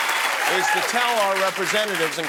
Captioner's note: cheers and applause